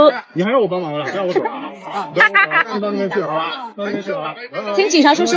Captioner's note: laughing